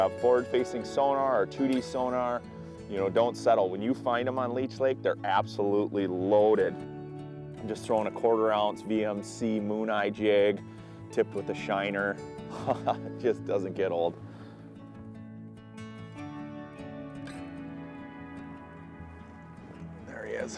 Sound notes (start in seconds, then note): 12.5 laughs; 14.7 bright acoustic music